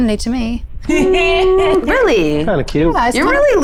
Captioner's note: chuckles